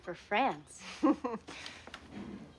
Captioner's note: laughs